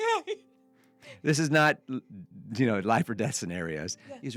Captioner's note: laughing